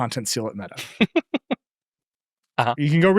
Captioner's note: laughing